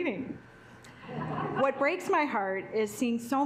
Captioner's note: assembly laughing